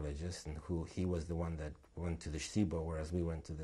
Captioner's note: non-english